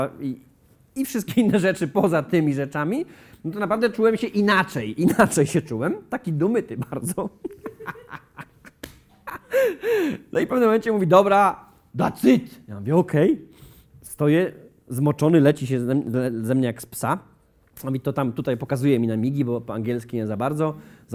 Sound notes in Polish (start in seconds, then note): 6.7 śmiech